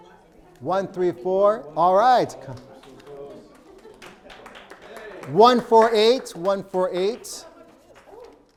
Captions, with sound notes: 134, all right. (crowd applauding) 148, 148.